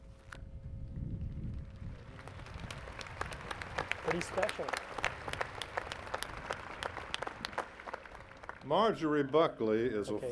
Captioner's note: applause